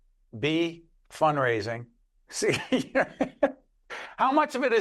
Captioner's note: both laugh